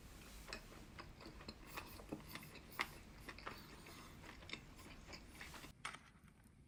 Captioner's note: chomp